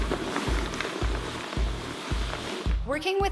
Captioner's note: dragging